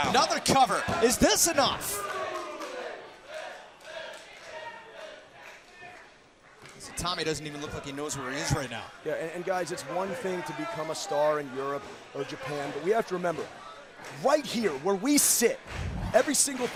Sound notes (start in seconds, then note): 3.9 crowd cheering